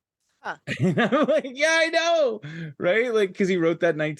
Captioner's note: chuckles